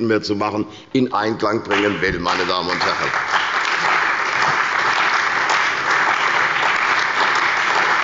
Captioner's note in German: Beifall bei der CDU und dem BÜNDNIS 90/DIE GRÜNEN